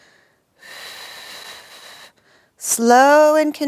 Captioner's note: exhaling